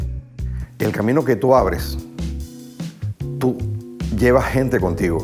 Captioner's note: gentle music continues; singing in Spanish; speaking Spanish